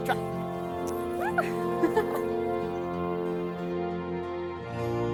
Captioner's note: lisa giggles